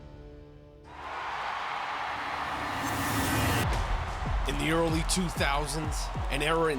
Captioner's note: applause